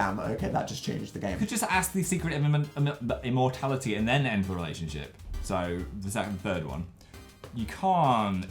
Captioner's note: stammers